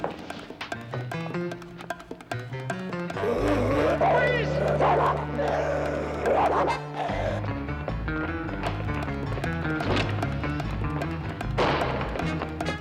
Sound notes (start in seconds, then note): 3.1 growls; 3.2 barking; 6.9 tense rhythmic music